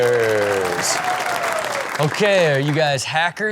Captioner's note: audience applauds